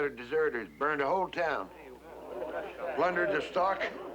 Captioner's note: crowd murmuring